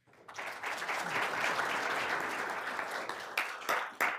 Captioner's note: all applauding